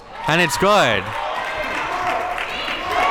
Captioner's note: audience cheering